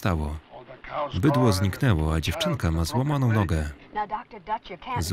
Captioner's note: none